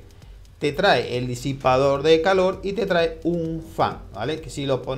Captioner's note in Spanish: fan